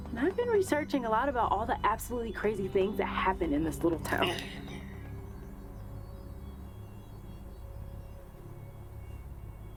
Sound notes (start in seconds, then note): 4.6 person grunts; 6.1 soft, suspenseful music